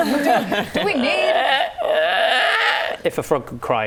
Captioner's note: laughing; froggy cry